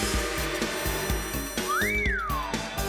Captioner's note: whistles